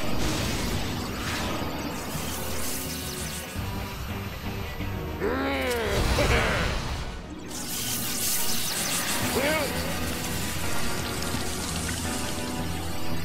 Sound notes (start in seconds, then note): 5.2 grumbling; 6.2 giggles